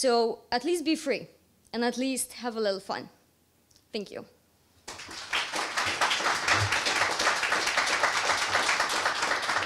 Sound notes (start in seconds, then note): 4.8 applause